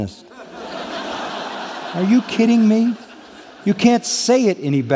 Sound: laughter

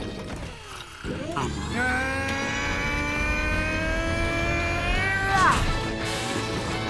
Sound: grunting

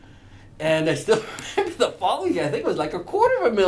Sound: laughs

